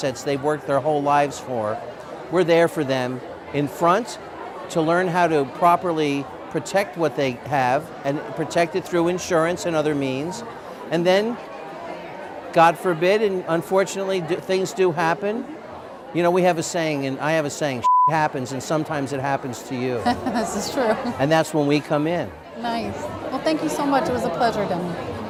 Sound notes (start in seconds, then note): 20.0 laughs